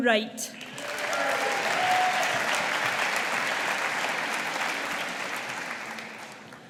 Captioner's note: audience applauding